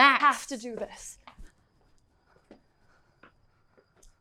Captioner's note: none